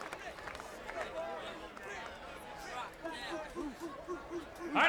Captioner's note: applause